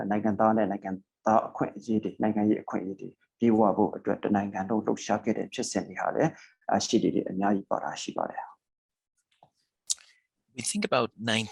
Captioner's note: speaking burmese